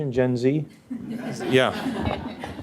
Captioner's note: audience laughs